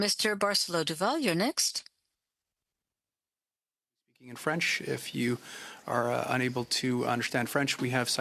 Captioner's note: speaking French